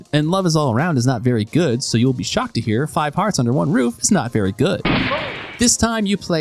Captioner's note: gunshot